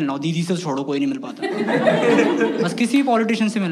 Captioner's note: laughs